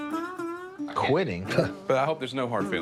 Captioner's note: scoffs